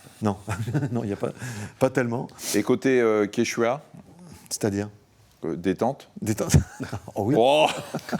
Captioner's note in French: rires